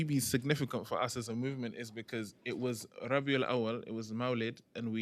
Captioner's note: non-english